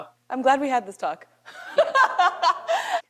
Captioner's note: laughs